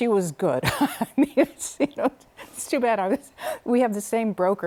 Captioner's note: laughter